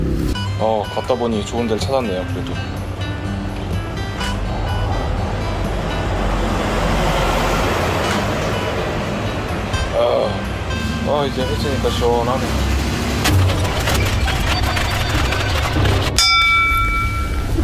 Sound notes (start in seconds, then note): 13.3 chugging beer